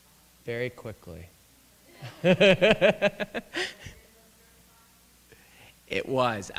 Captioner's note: laughter